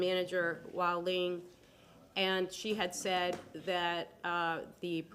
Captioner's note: none